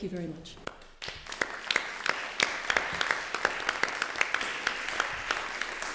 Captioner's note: applause